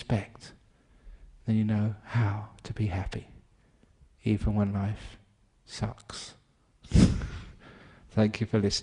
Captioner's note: laughter